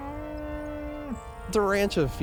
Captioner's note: cow mooing